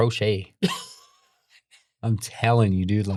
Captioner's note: laughs